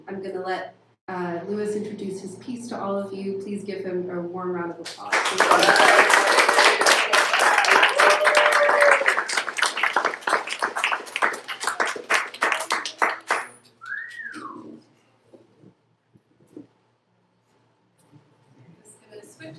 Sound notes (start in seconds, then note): 12.3 applause